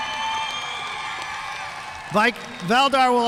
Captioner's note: audience cheering and applauding